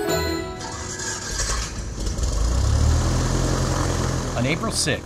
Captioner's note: plane engine revving